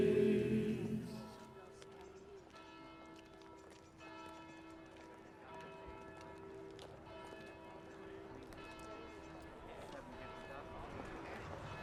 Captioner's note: bells ringing